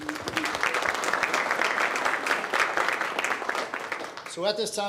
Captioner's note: audience claps